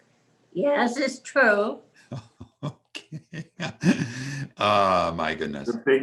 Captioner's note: laughs